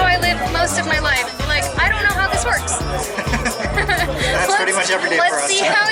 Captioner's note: laughter